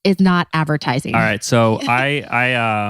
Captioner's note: laughs